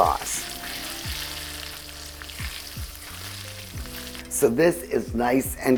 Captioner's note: pan sizzling